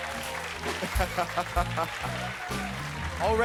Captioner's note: laughs